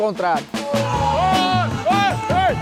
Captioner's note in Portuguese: gritos